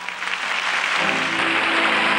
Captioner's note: applause